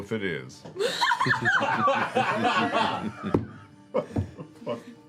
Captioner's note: laughter